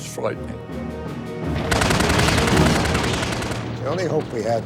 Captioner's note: guns firing